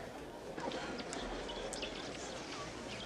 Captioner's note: chirping